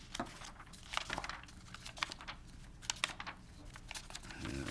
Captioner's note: paper rustling